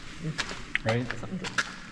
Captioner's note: laughs